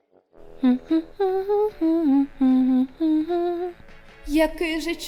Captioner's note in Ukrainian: мичить